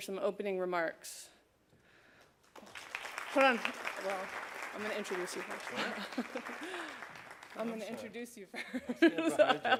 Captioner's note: applause